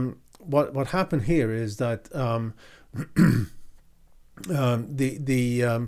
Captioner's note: clears throat